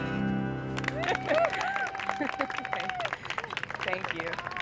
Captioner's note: cheers and applause